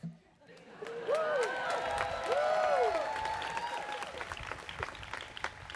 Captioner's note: audience cheers and applauds